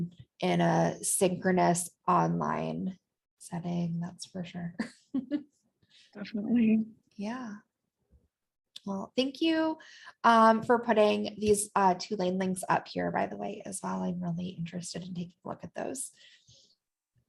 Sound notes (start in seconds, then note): 4.8 laughter